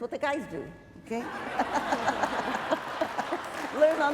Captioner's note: laughter